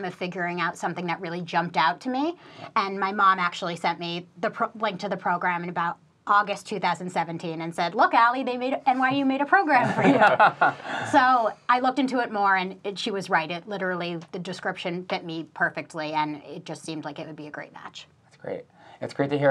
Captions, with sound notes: of figuring out something that really jumped out at me. My mom actually sent me the link to the program in about August 2017 and said, "Look Ally NYU made a program for you." - (laughs) - I looked into it more and she was right it literally the description fit me perfectly and it just seemed like it would be a great match. - That's great.